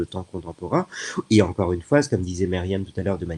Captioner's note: laughs